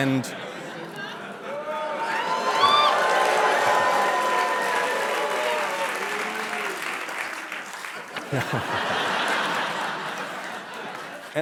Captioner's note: audience reacts; applause; laughter